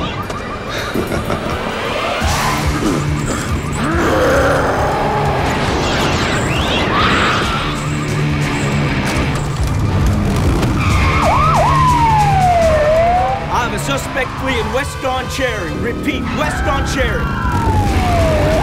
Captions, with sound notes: [ROARS] [SIREN WAILING] I have a suspect fleein' west on Cherry. Repeat, west on Cherry.